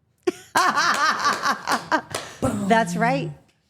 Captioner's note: Steph laughing; Steph clapping